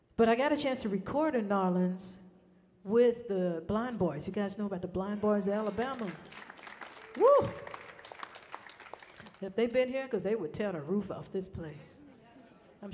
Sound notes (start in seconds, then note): 5.1 people clapping